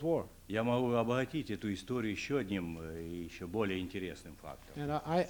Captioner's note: non-english speech